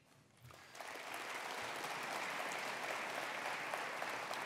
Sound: attendees applauding

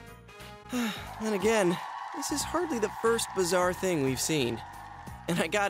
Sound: audience cheering in background

